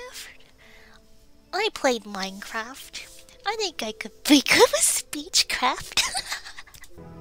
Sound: laughs

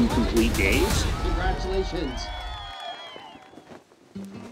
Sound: cheers

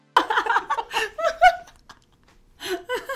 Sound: women laugh

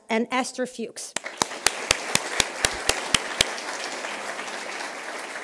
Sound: applause

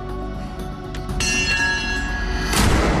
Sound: clang; gunshot

